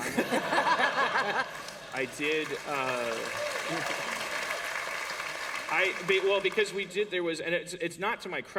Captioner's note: applause